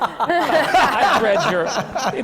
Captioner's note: laughter